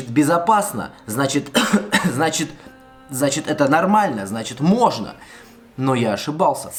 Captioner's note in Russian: кашель